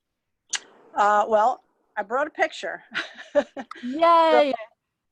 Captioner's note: laughs